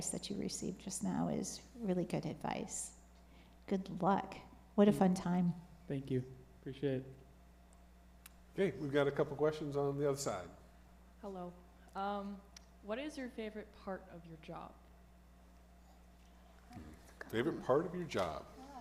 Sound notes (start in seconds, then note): none